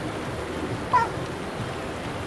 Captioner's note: Pup Yelps